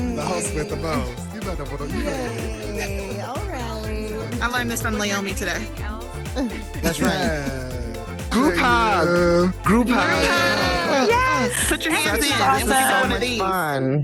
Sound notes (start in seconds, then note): 6.8 laughing